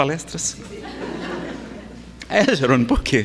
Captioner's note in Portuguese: Risadas